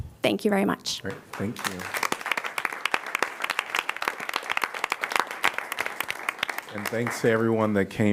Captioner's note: applause